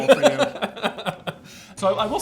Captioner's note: laughs